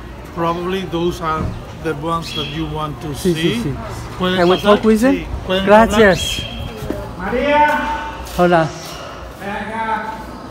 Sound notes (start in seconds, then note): 3.9 Spanish